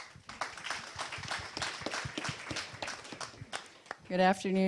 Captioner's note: audience applause